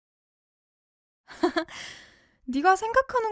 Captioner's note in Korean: 웃음